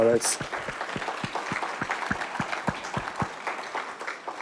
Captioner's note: audience applauds